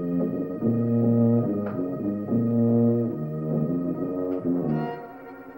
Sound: soft clicks

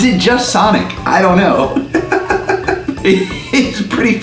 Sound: laughing

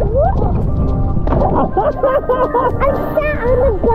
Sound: water splashing; laughs

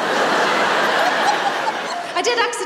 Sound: laughter

